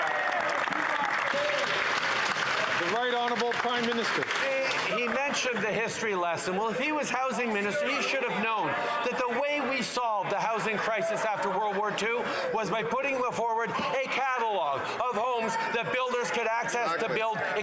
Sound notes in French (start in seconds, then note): 5.1 applaudissements; 7.8 voix de l'interprète